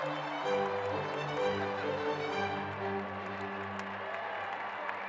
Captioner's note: cheers and applause